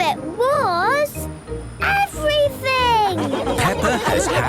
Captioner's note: laughing